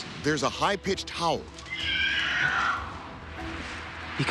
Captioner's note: screeching